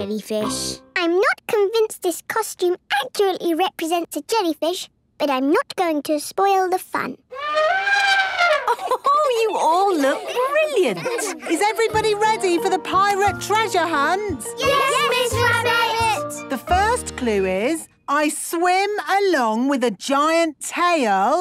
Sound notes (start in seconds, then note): 7.3 trumpeting; 7.9 Mummy Pig laughing